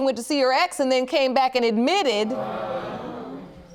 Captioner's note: audience gasps